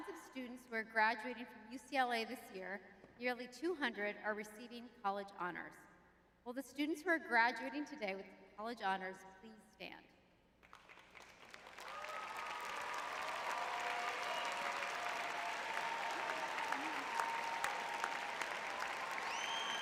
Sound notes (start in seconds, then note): 11.5 cheering; 15.8 applause